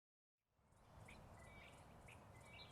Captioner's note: birds chirping